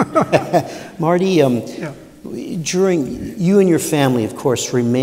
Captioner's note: laughter